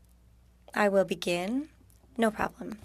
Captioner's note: speaking French